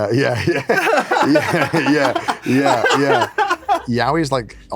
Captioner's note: both laugh